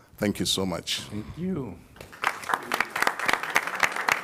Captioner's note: applause